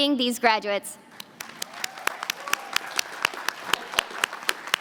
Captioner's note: applause